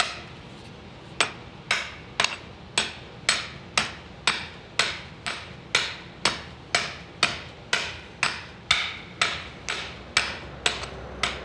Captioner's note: hammer taps